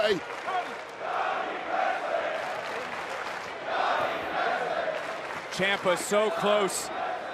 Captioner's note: crowd chants